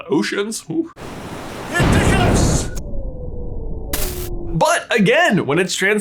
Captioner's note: lightning buzzes